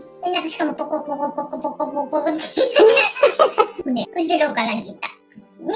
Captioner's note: laughs